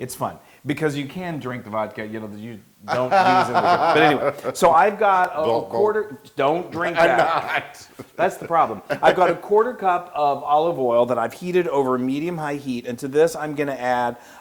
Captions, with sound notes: >> It's fun, because you can drink the vodka, >> [LAUGH] >> You don't use in the dish, but anyway. So I've got a quarter- >> Gulp, gulp. >> Don't drink that. >> I'm not. >> That's the problem. >> [LAUGH] >> I got a quarter cup of olive oil that I've heated over medium high heat and to this I'm